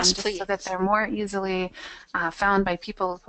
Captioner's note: voiceover